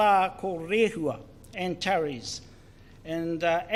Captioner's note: speaks in foreign language